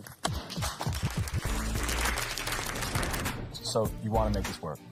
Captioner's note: applause